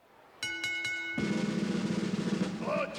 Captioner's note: ring bell dinging